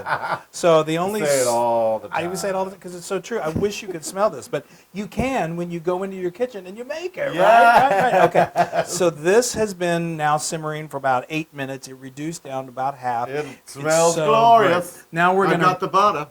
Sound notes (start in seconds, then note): 2.0 laugh; 7.3 laugh